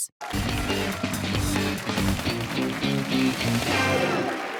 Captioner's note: cheers and applause